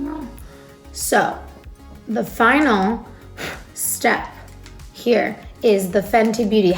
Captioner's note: blows air